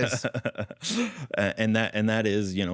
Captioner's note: laughs